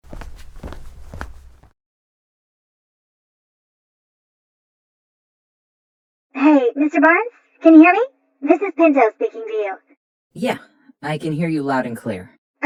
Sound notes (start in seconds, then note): 7.8 MRI Intercom Calling